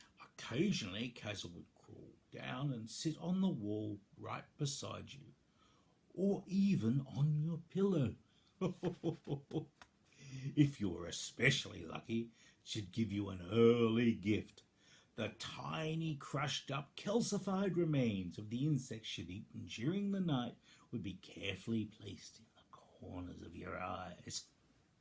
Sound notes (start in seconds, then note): 8.6 happy chuckle